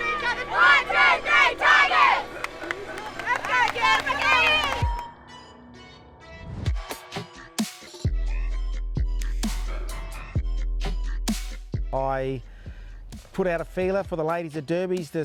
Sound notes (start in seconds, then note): 1.3 applauding and cheering